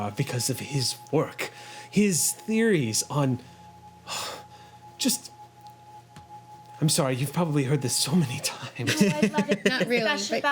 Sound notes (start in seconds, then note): 3.9 sighs; 8.7 laughing